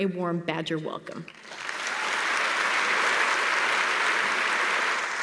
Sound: applause

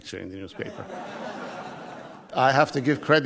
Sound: audience laughs

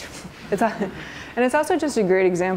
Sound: soft laughter

